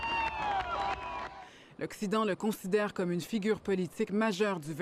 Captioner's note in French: cris de joie, applaudissements